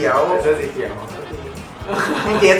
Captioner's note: laughs